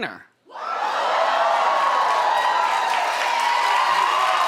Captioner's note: audience cheering